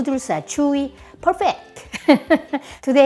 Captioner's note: laughs